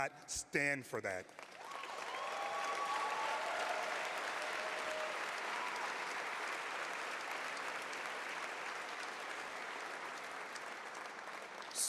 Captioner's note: cheers